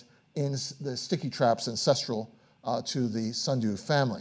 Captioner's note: none